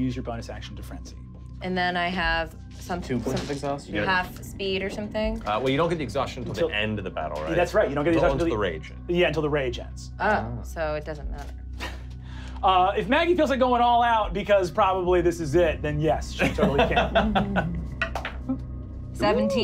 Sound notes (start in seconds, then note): 16.4 laughing; 18.5 rolling dice